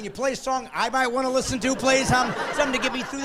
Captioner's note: laughing